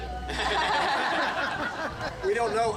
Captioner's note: group laughing